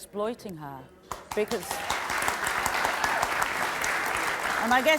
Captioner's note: audience applauding